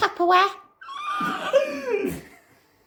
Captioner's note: Incoherant Tupperware screeches